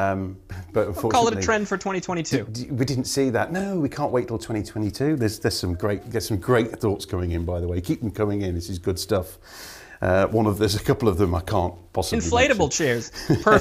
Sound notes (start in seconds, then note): 11.3 chuckle